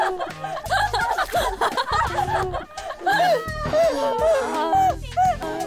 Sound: laughing so hard

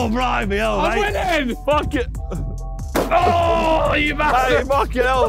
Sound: mobility scooters crashing

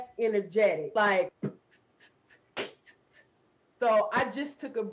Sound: beatbox percussion

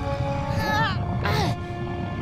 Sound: grunting

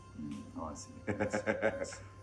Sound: laugh

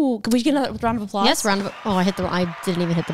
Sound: crowd applauds

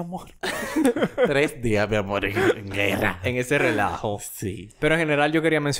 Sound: laughs

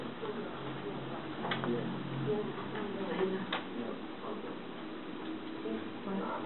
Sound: quiet murmuring

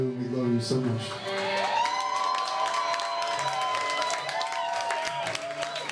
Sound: cheers and applause

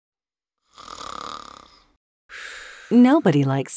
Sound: snoring noises

